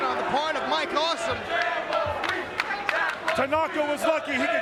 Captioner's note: crowd chanting